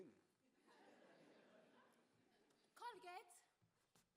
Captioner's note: audience laugh